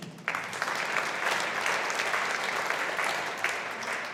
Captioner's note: audience applauding